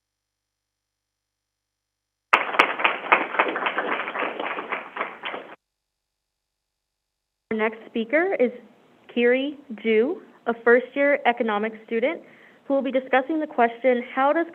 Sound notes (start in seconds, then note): 2.3 crowd applauding